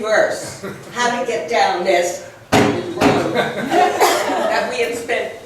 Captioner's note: bangs podium